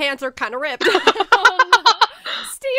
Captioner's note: hosts laugh